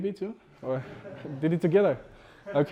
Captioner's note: students laughs